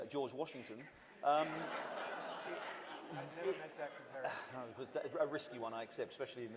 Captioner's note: laughter